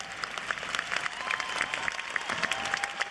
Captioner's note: cheers and applause